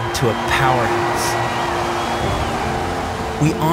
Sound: crowd cheering

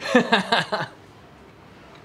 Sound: laughs

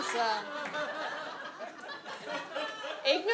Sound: audience laughs

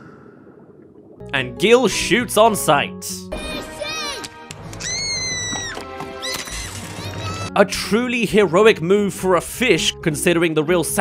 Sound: fishyy! *Screams* *Pop

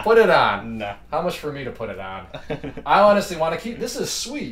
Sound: laughs

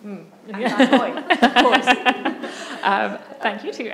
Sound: laughter

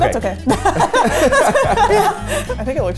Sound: all laughing

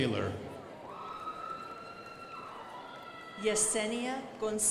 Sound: crowd applauding

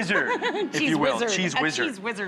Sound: laughs

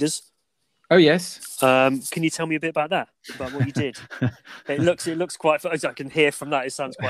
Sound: laughs

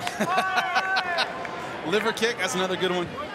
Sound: laughs

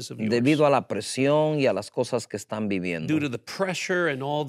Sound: speaking in Spanish

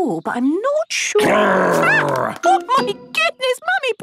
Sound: loud growl

